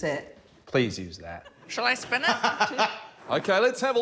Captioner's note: laughs